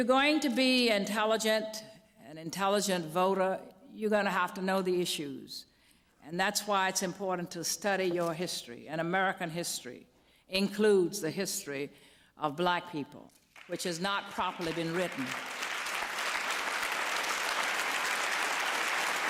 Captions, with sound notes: going to be an intelligent voter, you're going to have to know the issues. And that's why it's important to study your history. And American history includes the history of black people, which has not properly been written. [APPLAUSE]